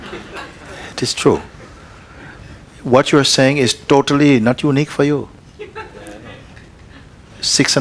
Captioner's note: laughter; laughter